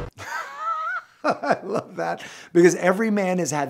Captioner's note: laughs